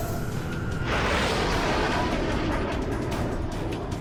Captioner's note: jet engine noises